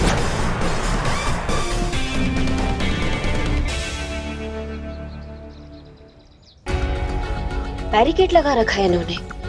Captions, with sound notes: [birds chirping] They have put barricades.